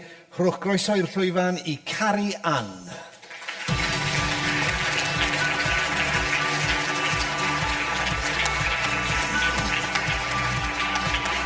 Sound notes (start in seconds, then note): 3.2 audience applause; 3.6 upbeat music